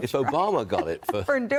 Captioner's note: laughter